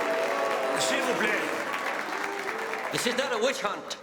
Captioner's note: speaks French